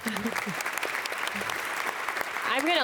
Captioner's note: audience applauds